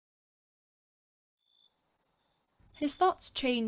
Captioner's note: crickets squeak